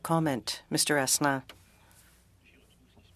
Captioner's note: speaking French